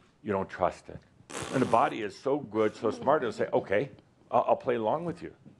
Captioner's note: makes a disgusted sound